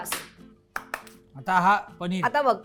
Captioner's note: claps